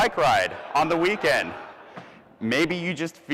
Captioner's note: audience laughs